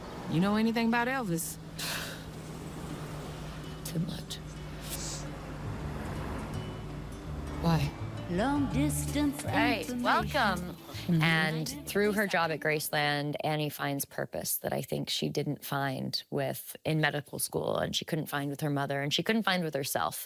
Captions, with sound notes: -You know anything about Elvis? -[scoffs] Too much. [sniffling] Why? Alright, welcome. And through her job at Graceland, Annie finds purpose that I think she didn't find with-- in medical school, and she couldn't find with her mother, and she couldn't find with herself.